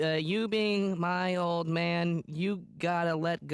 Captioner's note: flatly